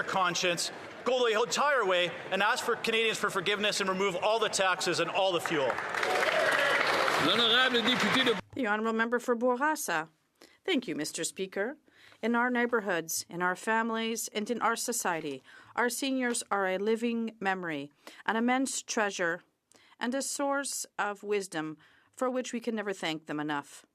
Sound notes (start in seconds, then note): 11.9 speaking French